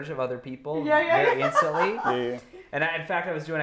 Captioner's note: laughing